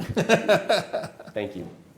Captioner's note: Gowan laughs